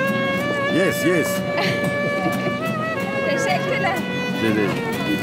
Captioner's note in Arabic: بالتركية